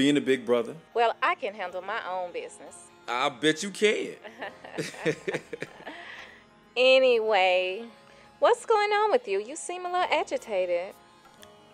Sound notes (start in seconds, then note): 4.2 laughter